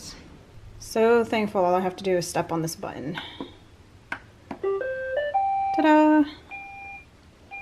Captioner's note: button clicks and the Roomba goes Do do do doo!